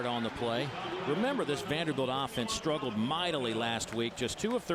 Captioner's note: crowd noise